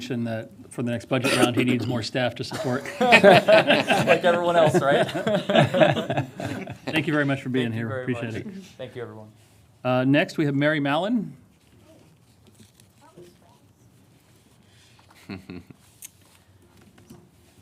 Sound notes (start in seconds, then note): 7.3 laughter